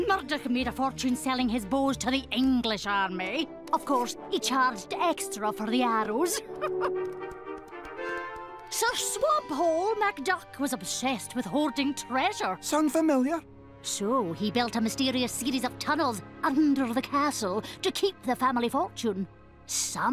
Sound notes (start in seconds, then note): 6.2 laughs